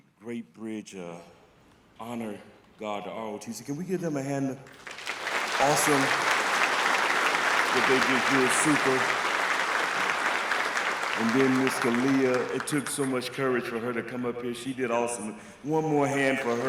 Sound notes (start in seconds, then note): 4.6 applause